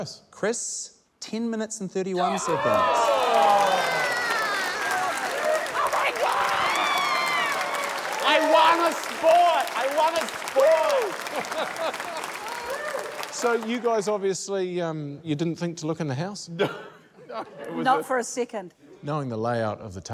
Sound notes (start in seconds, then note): 3.8 cheering, applause; 10.6 cheering, applause; 16.6 laughs